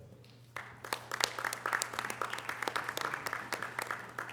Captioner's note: audience applause